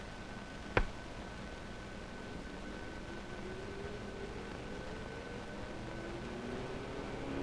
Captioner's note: engine humming; button clicks